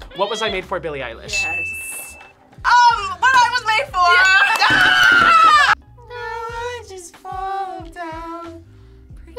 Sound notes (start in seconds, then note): 4.4 screams